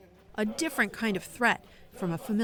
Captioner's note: voice-over